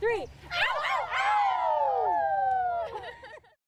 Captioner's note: kids howling